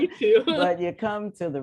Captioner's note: laughter